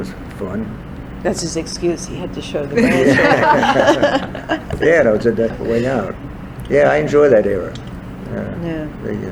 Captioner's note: all laugh